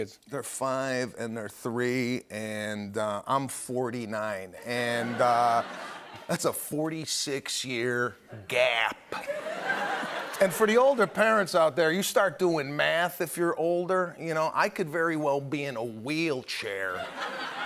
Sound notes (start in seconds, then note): 9.1 laughter